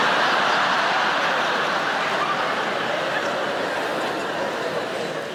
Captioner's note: audience laughing